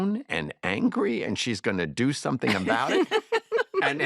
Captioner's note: laughter